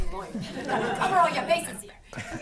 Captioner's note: audience laughing